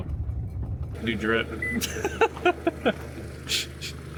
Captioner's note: laughs